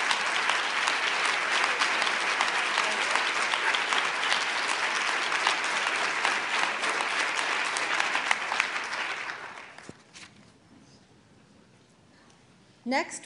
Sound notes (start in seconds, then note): 1.8 applause